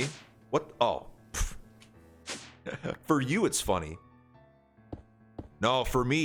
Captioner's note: giggles